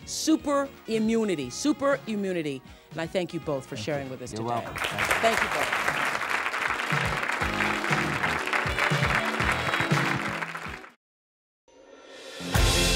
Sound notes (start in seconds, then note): 6.2 audience applause; 7.9 theme music